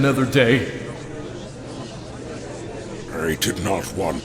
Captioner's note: gallery chattering